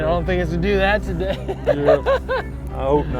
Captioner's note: laughing